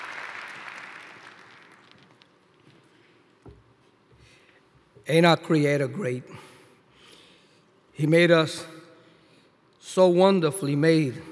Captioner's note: applause